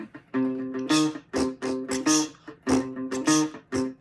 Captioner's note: beatboxing